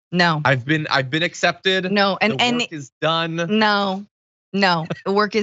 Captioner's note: laugh